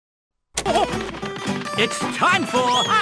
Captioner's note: gorilla hooting